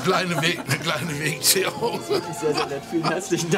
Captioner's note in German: Gelächter